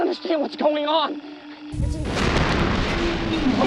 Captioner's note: crashing